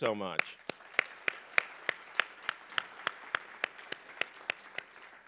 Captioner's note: applause